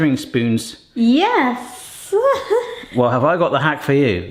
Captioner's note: chuckles